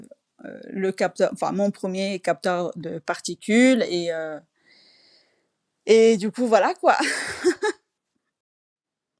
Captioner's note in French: rires